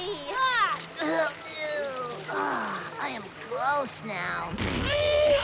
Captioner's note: making gross sounds